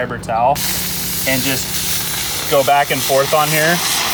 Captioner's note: steam hisses